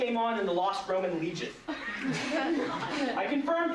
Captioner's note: laughter